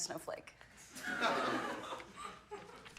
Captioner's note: laughing